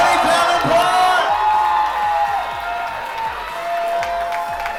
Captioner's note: audience cheering